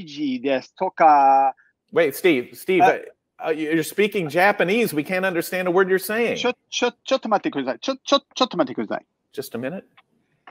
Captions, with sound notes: - Wait, Steve, you're speaking Japanese. We can't understand a word you're saying. - (speaking foreign language) - Just a minute.